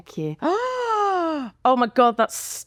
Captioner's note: gasps